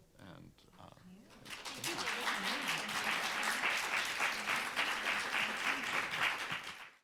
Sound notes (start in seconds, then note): 3.1 room applauding